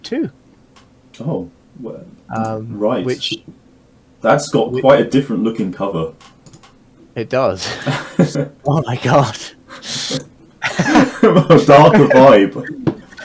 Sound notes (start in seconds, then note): 10.6 also laughing; 10.6 laughing